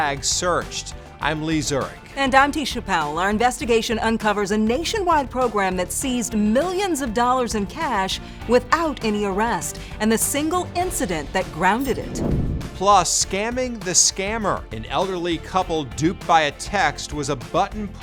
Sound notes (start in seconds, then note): 12.2 air whooshing